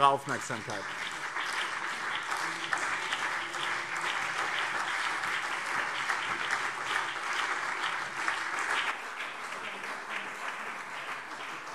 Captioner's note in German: Beifall BÜNDNIS 90/DIE GRÜNEN und CDU